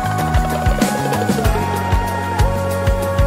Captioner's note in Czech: Potlesk